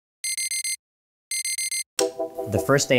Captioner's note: alarm clock beeping